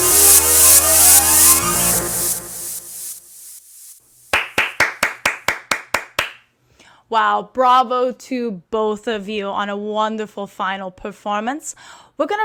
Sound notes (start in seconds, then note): 4.3 applause